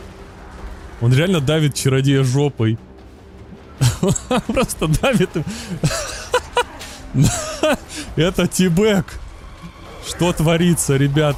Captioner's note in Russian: смех